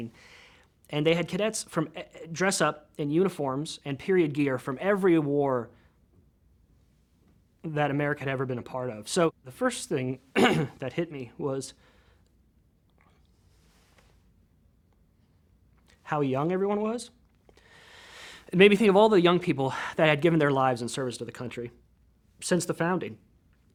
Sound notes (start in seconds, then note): 10.3 clears throat; 17.5 inhales deeply